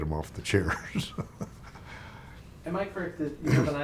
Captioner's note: chuckling